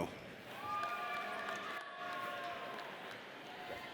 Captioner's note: audience cheers